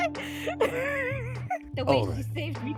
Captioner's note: laughing